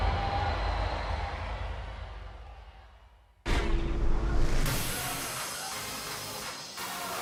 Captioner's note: cheers & applause